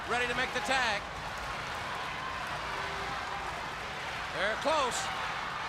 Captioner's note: crowd cheering